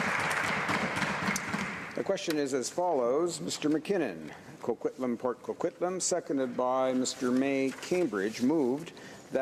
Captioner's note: applause